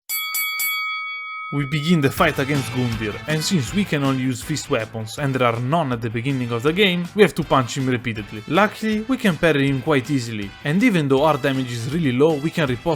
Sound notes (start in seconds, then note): 0.0 boxing bell rings